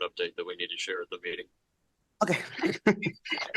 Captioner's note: laughter